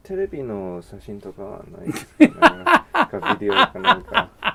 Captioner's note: chuckle